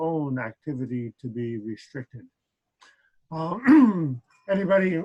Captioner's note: clears throat